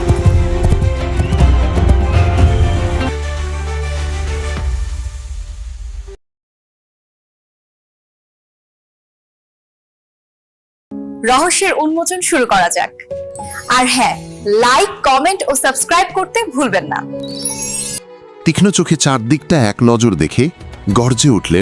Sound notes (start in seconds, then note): 0.1 applause